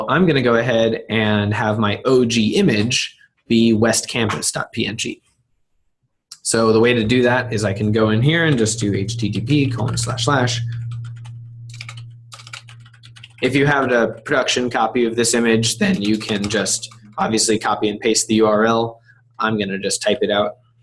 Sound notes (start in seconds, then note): 11.6 typing